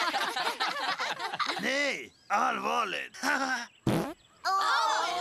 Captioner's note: laughter; chuckles, farts